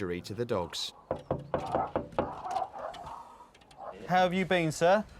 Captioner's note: knocking on door